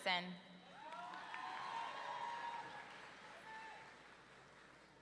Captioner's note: audience cheering